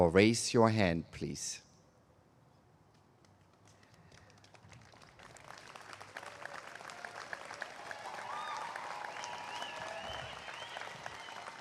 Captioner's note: applause